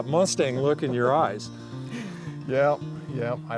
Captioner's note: laughs